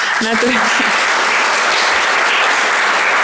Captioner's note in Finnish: Aplodeja